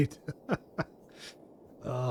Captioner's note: laughs